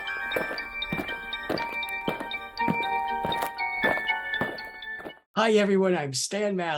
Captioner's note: eerie Music; aliens marching